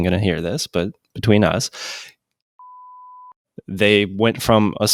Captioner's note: beep